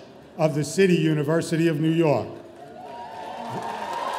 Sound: audience cheering

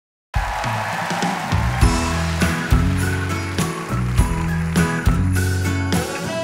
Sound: audience applauding; upbeat music

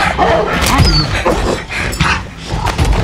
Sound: dog whimpers

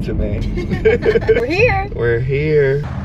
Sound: laughing

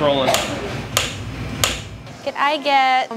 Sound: marker clicking

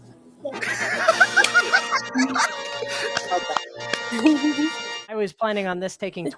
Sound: contestants laughing and clapping

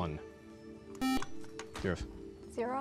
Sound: buzzer

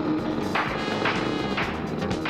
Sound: engine backfires

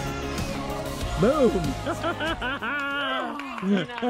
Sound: laughter

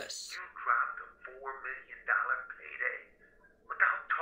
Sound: speaker phone

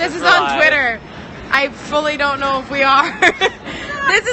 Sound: laughs

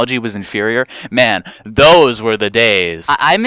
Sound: breathes in

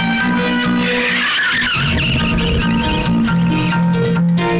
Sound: tires squealing

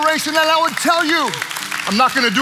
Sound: congregation clapping

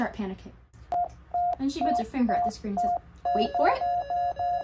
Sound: beeping heart monitor; beeping getting faster; beeping getting faster

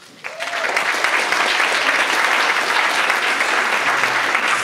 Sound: audience applauds

